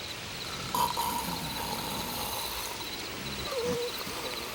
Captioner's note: Bruto snores